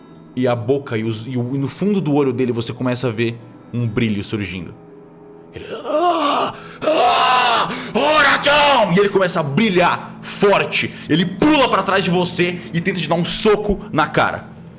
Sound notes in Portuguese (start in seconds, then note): 5.5 grunhidos